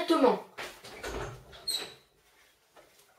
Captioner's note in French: Ouverture de porte